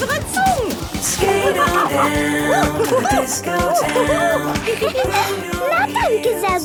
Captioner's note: laughing and exclaiming